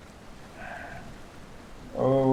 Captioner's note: sighs